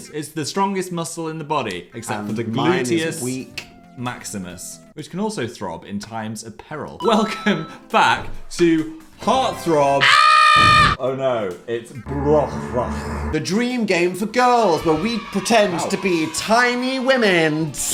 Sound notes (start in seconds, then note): 7.7 laughing; 10.0 Dan screaming